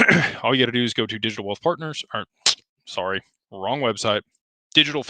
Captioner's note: clears throat